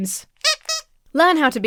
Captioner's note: toy squeaks